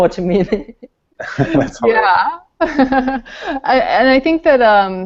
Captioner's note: laughing